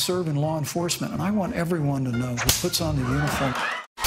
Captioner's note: laughter